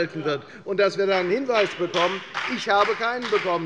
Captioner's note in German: Beifall bei der FDP